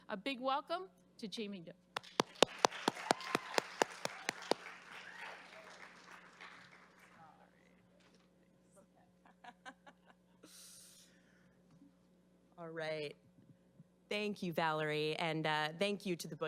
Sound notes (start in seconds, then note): 1.9 clapping; 2.0 crowd applause